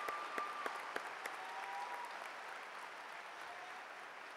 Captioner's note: cheers and applause